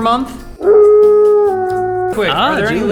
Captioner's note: howling